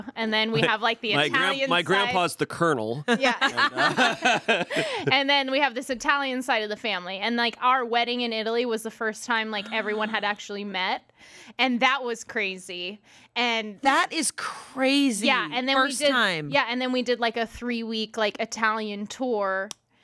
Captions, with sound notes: and then we have like the Italian side. - My grandpa's the colonel. (everyone laughs) - And then we have this Italian side of the family. And like our wedding in Italy was the first time like everyone had actually met. And that was crazy. - That is crazy. First time. - Yeah, and then we did like a three week like Italian tour.